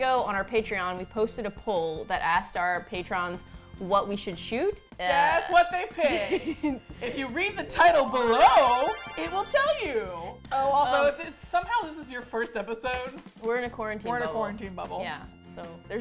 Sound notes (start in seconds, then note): 6.0 laughs; 8.4 twinkly sounds